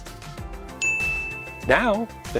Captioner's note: ding!